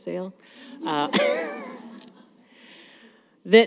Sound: laughter

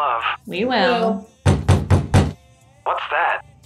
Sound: loud knocking

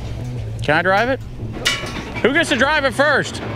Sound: clanking

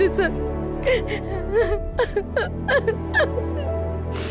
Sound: crying

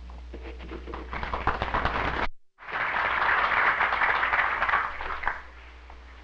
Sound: applause

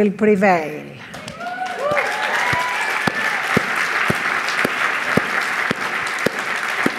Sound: audience applauding; audience cheering

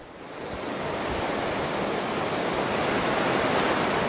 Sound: waves crashing

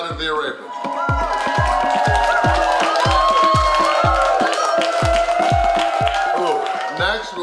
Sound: cheering & Clapping

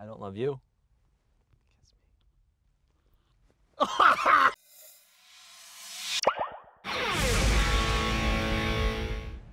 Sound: whispers

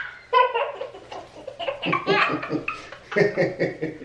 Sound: laughs

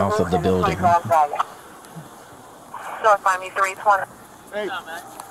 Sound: radio dispatching in background

